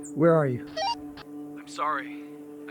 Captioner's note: radio squelch